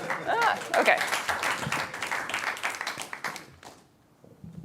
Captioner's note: applause